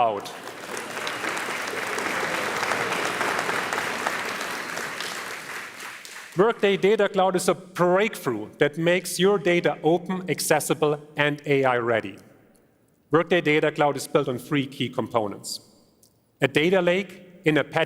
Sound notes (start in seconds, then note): 7.4 applause